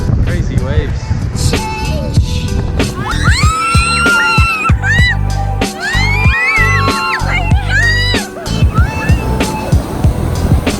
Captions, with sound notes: Crazy waves. (girls screaming) My god! Oh my god.